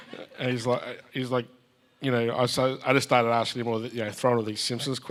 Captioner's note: everyone chuckles